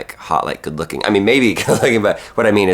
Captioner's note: laughs